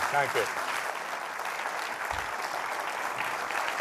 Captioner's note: applause